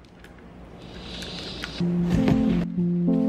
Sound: hisses because it's so loud

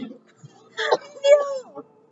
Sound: cough

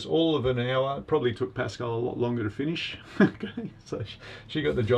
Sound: laughs

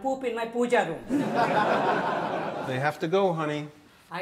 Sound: audience laughs

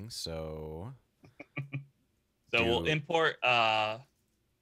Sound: laughing

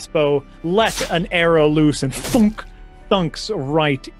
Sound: thunk sfx

